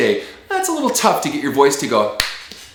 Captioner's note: slap